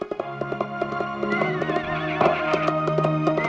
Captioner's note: horse neighing